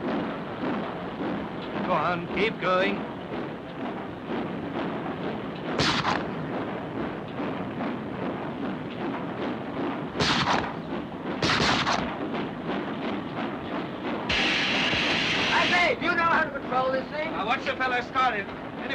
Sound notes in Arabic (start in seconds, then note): 0.0 صوت محرك القطار; 4.2 صوت محرك القطار; 5.7 طلق ناري; 7.2 صوت محرك القطار; 11.3 طلقات نارية; 13.9 هسهسة المحرك